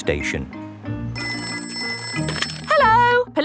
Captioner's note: ringing